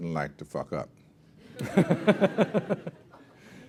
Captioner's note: laughter